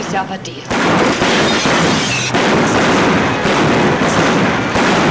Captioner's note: guns bang